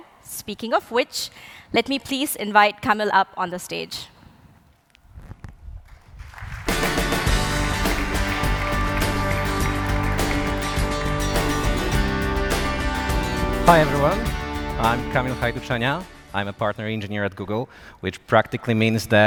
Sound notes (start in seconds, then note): 5.9 applause